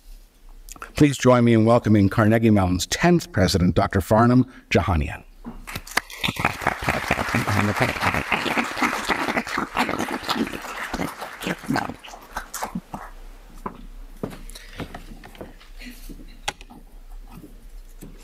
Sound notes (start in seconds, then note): 5.7 applause